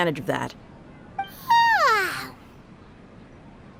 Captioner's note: yawn